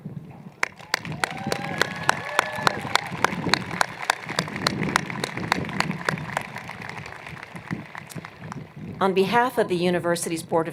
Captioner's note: applause